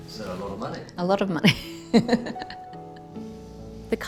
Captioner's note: laughs